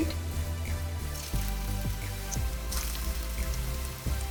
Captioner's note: oil sizzling